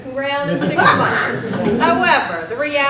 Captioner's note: group laughs